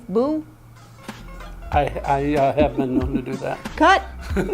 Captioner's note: laughs